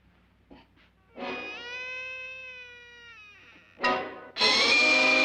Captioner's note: door creaking